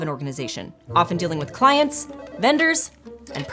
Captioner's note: phones ringing